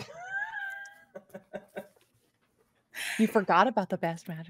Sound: Fairuza laughs

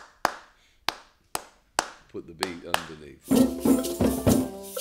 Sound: clapping

